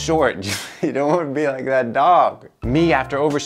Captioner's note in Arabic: يضحك